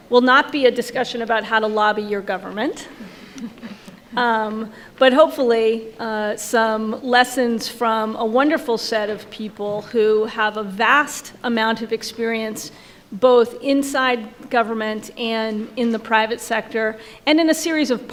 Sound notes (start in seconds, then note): 3.3 panel laughs